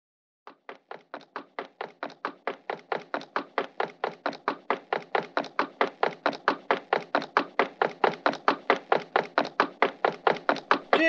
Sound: rapid footsteps growing slowly louder

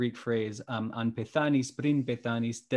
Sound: speaking greek

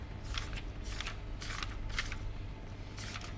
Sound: pages flick

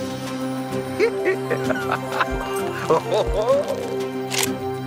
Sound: laughing and exclaiming

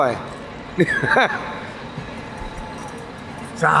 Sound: laughing

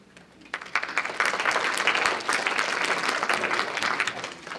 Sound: audience applauding

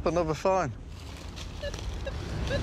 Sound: beeping; beeping continues

